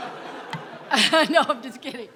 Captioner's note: audience laughing; laughs